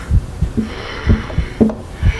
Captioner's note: tapping